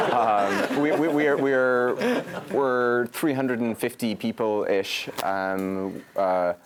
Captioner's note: laugh